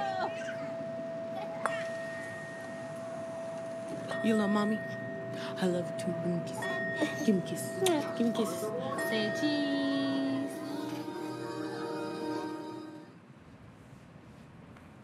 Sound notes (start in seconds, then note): 0.0 bells chiming; 0.0 children laughing; 4.3 bells chiming